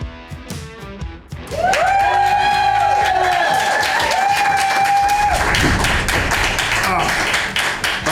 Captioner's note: crowd cheering and applause